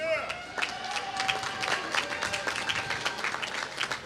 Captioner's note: applause